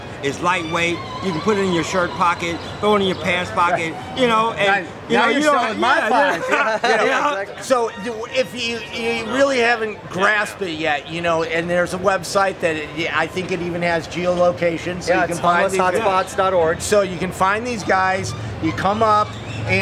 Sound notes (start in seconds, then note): 6.6 laughs